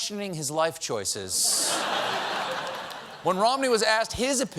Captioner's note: laughter